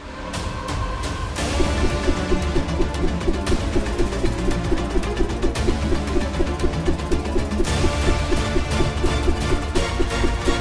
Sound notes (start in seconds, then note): 1.4 boomerang sound